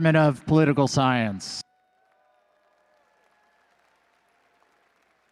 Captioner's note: audience cheering